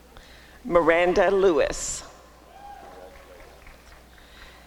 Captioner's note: applause and cheering